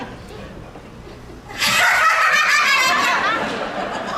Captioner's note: laughs hysterically